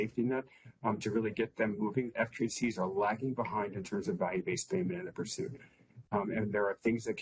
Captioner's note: audio interference